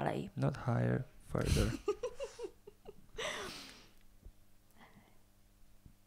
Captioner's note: laughs